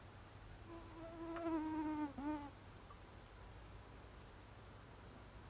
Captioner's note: mosquitoes buzzing around